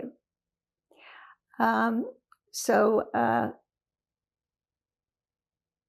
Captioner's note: pauses 4 seconds